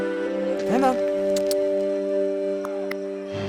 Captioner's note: clucks at colt